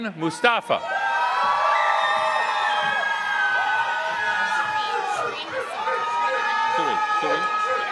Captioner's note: applause